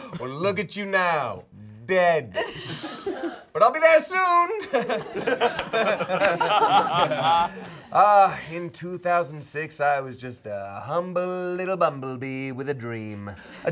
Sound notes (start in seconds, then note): 4.5 all laughing